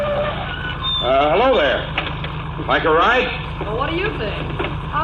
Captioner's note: calls out